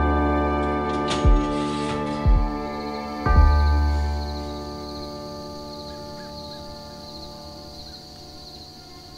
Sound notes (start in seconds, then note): 1.5 insects chirring